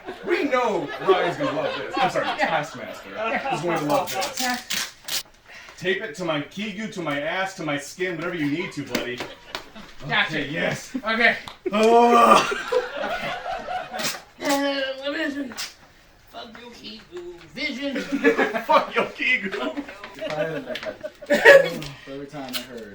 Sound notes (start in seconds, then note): 0.0 laughter; 12.3 laughter